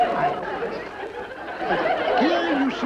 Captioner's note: audience laughing